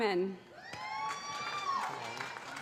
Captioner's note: cheering; applause